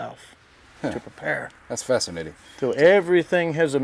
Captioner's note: bird caws in the background